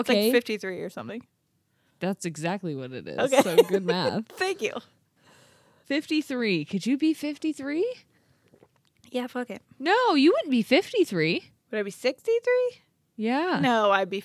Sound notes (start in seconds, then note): 3.2 laughs